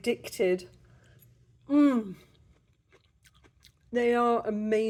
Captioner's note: crunching sounds